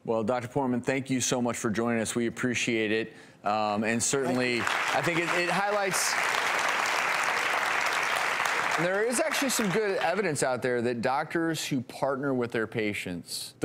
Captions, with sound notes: - Well, Dr. Poorman, thank you so much for joining us. We appreciate it. (audience clapping) There is actually some good evidence out there that doctors who partner with their patients,